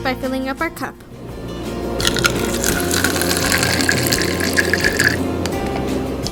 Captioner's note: water pouring noises